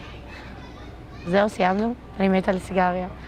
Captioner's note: hebrew